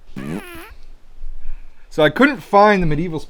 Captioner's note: fart sounds